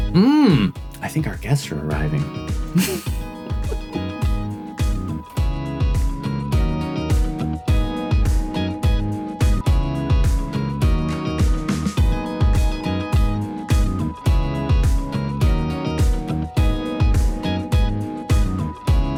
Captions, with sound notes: I think our guests are arriving. (laughing) (upbeat music)